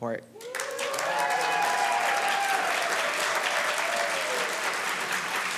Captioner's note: applause